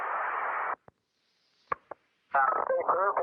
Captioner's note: static popping on radio; static ends